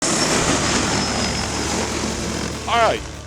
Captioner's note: loud Drone Noise